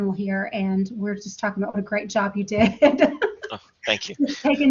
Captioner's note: laughter